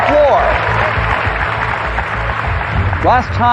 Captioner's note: cheering and applause